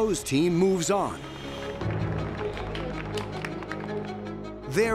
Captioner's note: applause